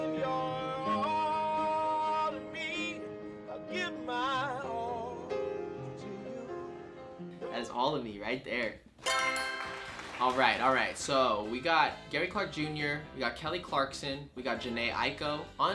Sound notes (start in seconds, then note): 9.0 answer board chimes; 9.0 crowd claps